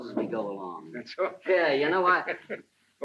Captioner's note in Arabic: يضحك